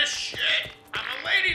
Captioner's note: fart